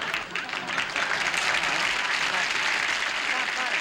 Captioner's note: applause